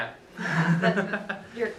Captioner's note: laughing